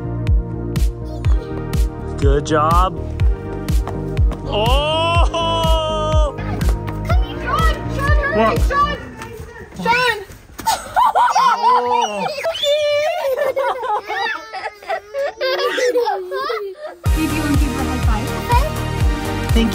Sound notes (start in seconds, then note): 0.1 upbeat music; 10.6 mom laughing; 12.4 all screeching; 14.5 kids laughing